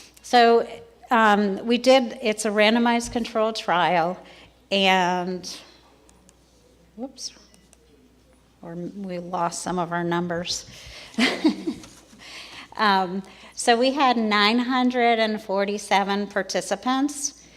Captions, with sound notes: So, it's a randomized control trial, and, whoops, we lost some of our numbers. (chuckles) So we had 947 participants